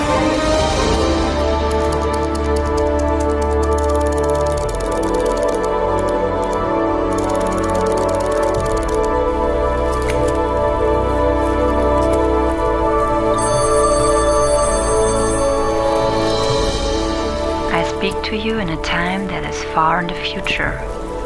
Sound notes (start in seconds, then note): 13.3 telefon rings